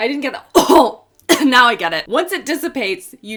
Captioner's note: cough